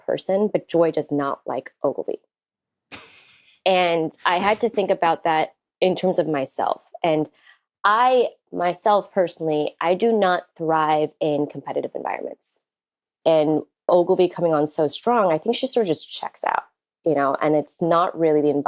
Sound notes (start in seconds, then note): 2.9 chuckles